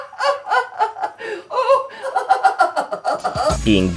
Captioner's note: grandma continues to laugh